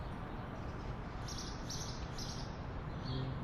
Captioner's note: birdsong